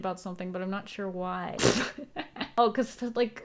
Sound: laughs

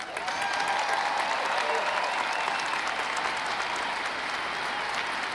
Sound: audience cheering and applauding

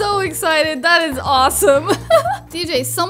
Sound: laughs

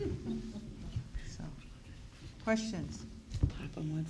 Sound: laughing

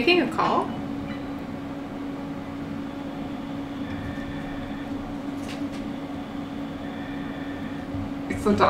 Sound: breathing can be heard over the phone

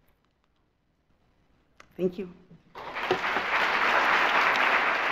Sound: audience applauds

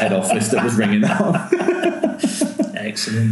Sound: laughing

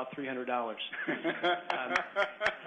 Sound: laughter

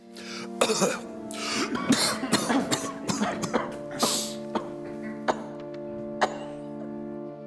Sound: coughing

